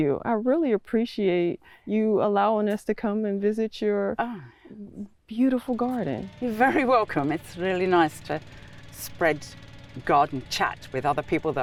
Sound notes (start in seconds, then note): 5.6 mower engine roars